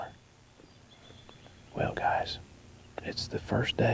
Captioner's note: whispering